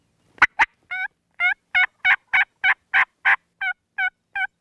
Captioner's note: turkey calling